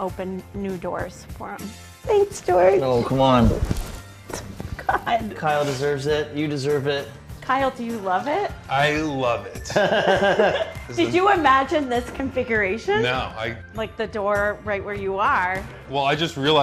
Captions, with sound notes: to open new doors for him. Thanks, George. Oh, come on. God. Kyle deserves it. You deserve it. Kyle, do you love it? I love it. [laughter] Did you imagine this configuration? No, I-- Like, the door right where you are.